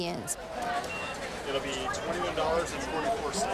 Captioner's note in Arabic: ثرثرة في الخلفية; صوت صندوق الدفع